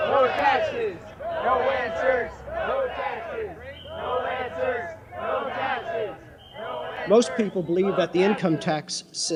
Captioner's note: people shouting